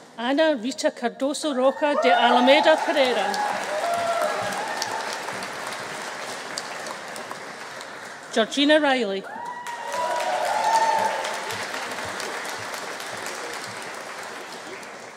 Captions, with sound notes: Ana Rita Cardoso Rocha de Almeida Pereira. (AUDIENCE APPLAUDING) (AUDIENCE CHEERING) Georgina Riley. (AUDIENCE APPLAUDING) (AUDIENCE CHEERING)